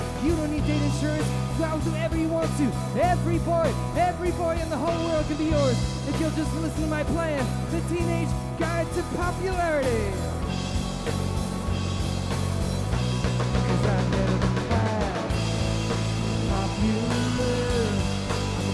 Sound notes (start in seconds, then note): none